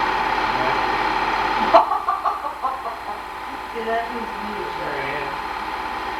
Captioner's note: laughing